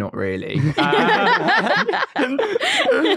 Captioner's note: everyone laughs